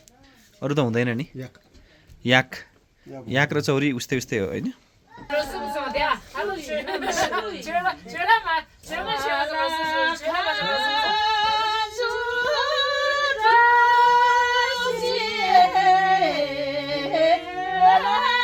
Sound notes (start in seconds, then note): 5.3 indistinct conversation and laughter; 12.1 traditional Tibetan song